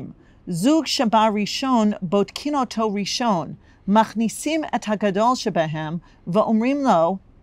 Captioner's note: Hebrew